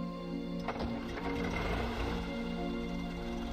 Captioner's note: engine revving